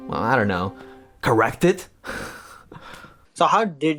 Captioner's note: chuckles